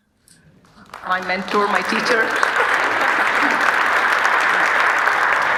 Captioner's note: audience applauding